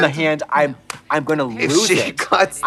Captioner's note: hands clapping; giggles